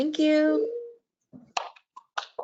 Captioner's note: applause